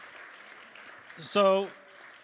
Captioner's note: applause